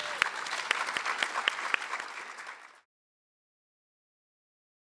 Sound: audience clapping

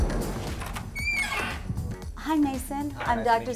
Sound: energetic music; door creaking

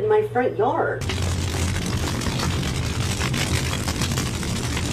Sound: fire crackles

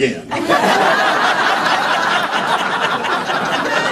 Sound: laughter

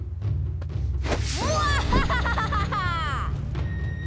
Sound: laughing

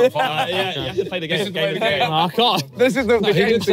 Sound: everyone chattering

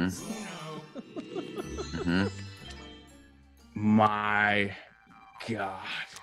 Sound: laugh

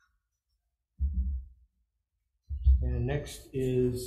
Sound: microphone thudding

